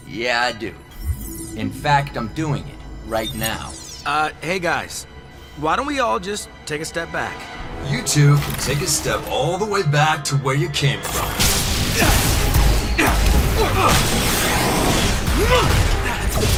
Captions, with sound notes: Yeah, I do. In fact, I'm doing it right now. Hey, guys, why don't we all just take a step back? You two can take a step all the way back to where you came from. [LASER BLASTS]